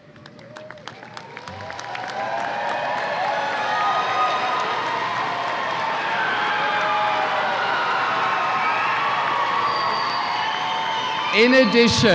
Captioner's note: applause and cheers